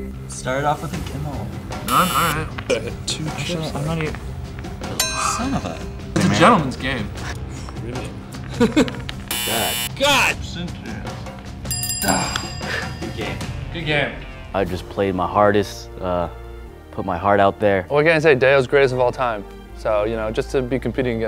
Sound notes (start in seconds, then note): 1.8 buzzer; 3.0 voiceover; 5.0 bell ding; 5.7 voiceover; 8.5 laughter; 9.3 buzzer; 10.2 voiceover; 11.6 bell rings